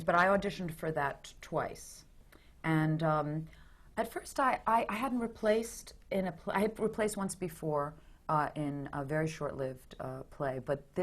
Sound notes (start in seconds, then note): none